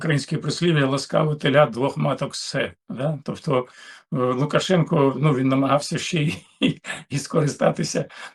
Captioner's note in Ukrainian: сміх